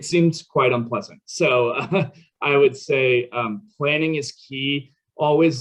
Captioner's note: chuckles